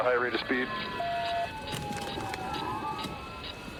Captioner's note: sirens blaring